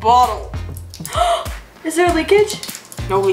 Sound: gasps

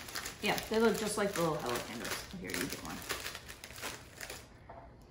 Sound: none

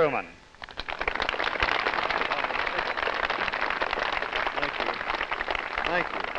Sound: applause

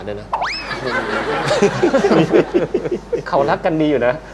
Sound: laughter

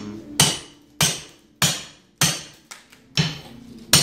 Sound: hammering

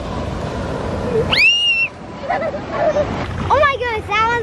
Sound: screams

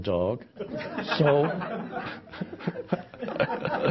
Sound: all laughing

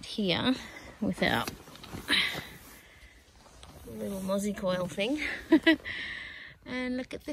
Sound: chuckles

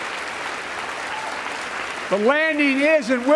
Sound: applause

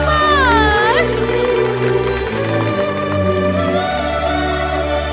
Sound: applause

